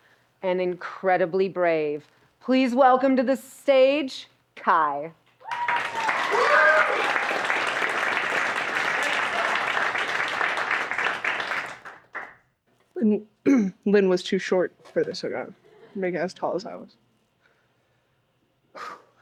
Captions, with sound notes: and incredibly brave. Please welcome to the stage, Kai. (audience applauds) (audience applauds) Lynn was too short for this. I'm making it as tall as I was.